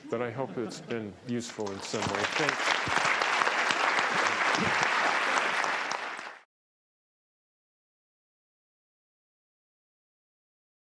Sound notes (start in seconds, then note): 1.5 applause